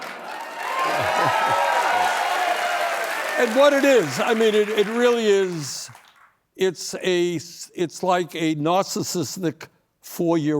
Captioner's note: cheering